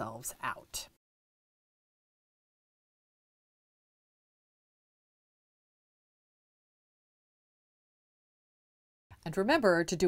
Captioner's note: no Sound Present